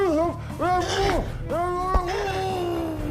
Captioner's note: dramatic music begins; Ava grunts; dramatic music continues